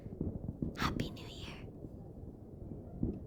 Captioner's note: whispers